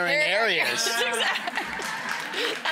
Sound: laughing

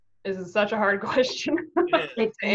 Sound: laughs

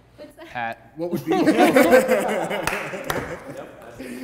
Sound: laughs

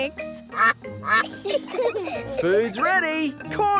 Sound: quacking; children giggle

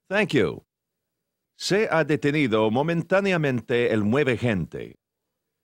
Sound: in Spanish

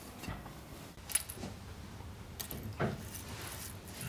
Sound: tinkling noises

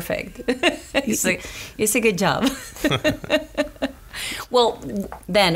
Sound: laughs; laughs

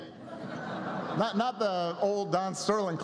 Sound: laughter

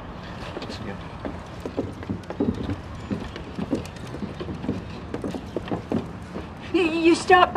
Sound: footsteps

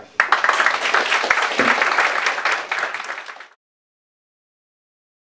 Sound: audience applauding

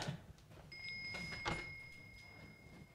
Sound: Bell rings in Margret's room

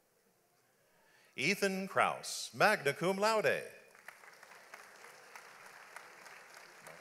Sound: audience applauds

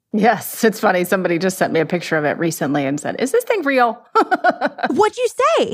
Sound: laughs

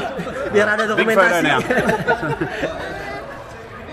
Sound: laughing

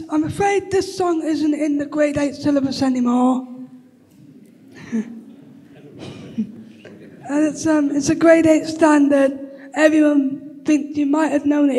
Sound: laughter

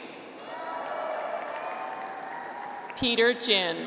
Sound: audience applauds

